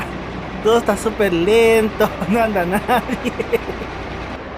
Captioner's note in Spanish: risas